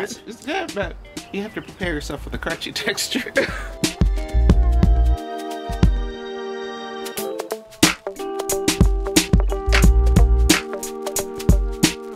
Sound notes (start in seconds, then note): 2.9 chuckles; 4.3 slow mellow music